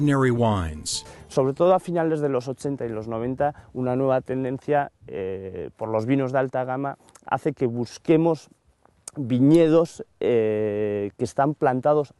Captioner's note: speaking spanish